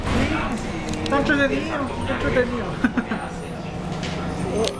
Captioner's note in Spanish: risas